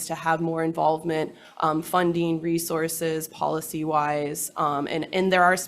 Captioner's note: none